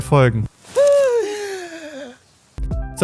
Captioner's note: anxious inhale